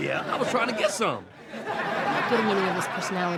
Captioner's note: audience laughing